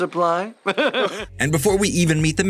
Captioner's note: laughs